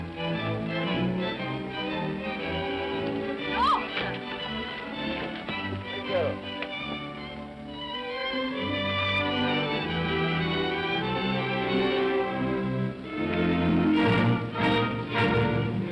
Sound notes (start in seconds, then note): 0.3 upbeat music; 3.5 woman exclaims; 6.9 upbeat music; 13.0 regal music